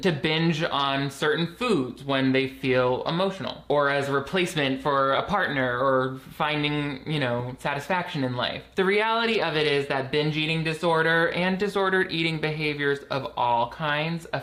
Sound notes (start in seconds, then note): none